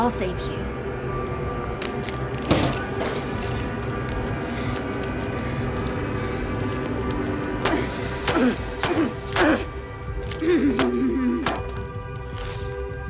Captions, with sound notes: I'll save you. (metal clattering) (dramatic music continues) (knife thudding) (air whooshing)